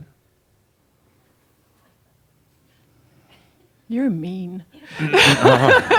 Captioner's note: she chuckles; chuckles